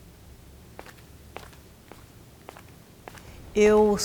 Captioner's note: steps